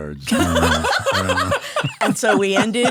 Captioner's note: everyone laughs